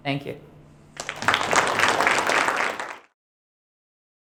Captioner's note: applause